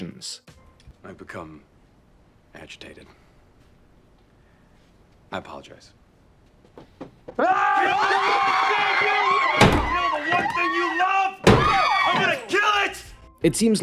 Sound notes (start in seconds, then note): 7.4 screaming